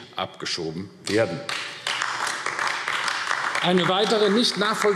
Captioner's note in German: Beifall AfD